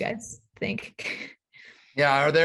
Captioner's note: chuckles